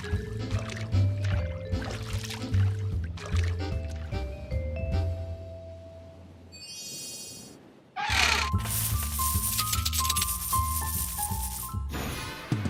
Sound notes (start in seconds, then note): 8.0 hinges creak; 8.7 coins jingling